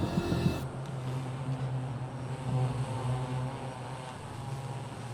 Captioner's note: buzzing drone